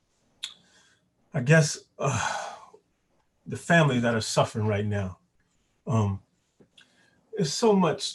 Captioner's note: sigh